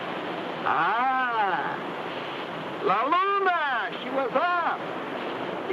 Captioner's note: speaks in foreign language